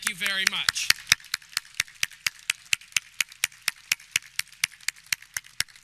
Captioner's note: audience clapping